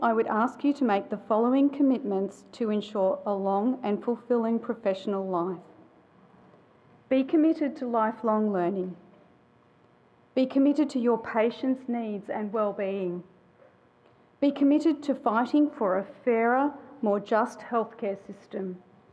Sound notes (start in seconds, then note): none